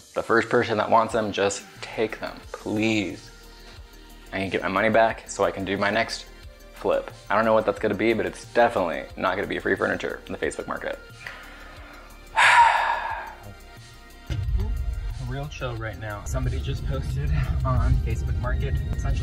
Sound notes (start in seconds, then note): 12.2 sighs